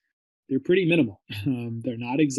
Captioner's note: chuckles